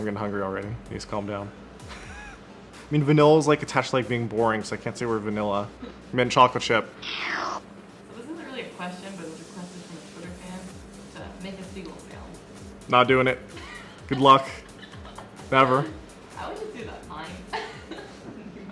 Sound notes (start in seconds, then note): 1.9 laughing; 7.0 slurping; 14.5 laughing; 17.4 laughing